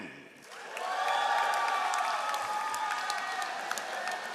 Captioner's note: all applauding